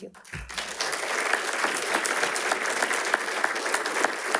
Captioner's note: attendees applauding